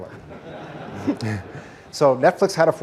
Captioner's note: 큰 웃음